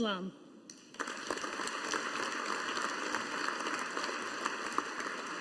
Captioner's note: audience applauding